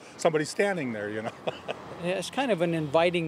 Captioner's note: laughs